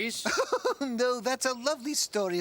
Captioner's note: Margaret laughing